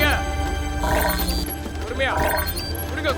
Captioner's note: countdown beep